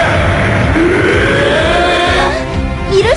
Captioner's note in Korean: 엔진대왕의 기합 소리